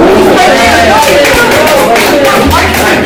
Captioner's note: applause